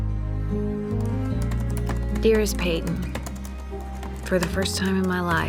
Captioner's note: typing